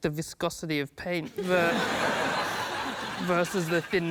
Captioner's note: laughter